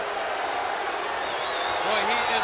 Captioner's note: spectators cheering